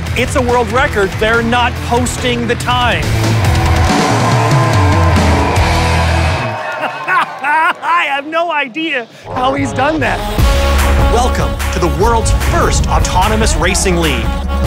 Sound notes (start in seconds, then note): 2.5 crowd cheering; 3.7 energetic rock music; 5.6 laughs